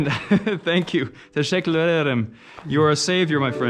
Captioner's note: speaks foreign language